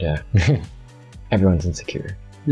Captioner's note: chuckles